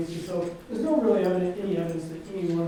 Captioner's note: none